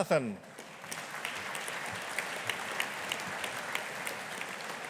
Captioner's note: audience applauding